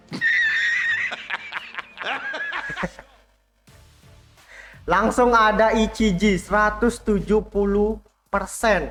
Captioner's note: laughs